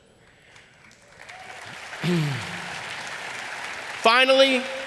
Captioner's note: audience applauding